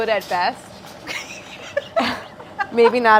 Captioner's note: laughs